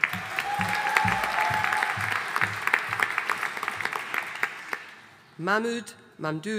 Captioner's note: audience cheering and applauding